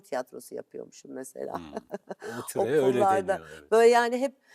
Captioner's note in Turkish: kahkaha